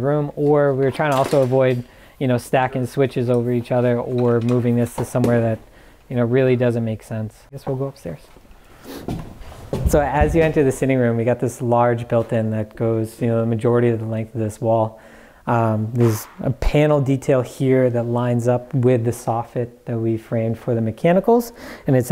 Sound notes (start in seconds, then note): 0.2 metal clanking; 9.0 footsteps thumping